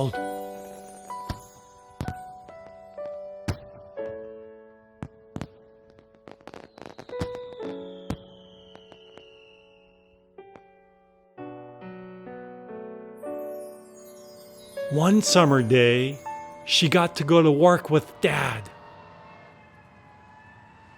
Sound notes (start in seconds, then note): 0.0 tinkling music; 0.1 fireworks crackling; 6.0 fireworks whistling; 13.2 tinkling music; 16.9 sirens blaring